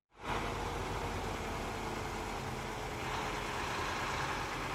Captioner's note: truck engine whirring